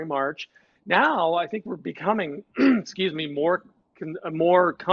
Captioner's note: clears throat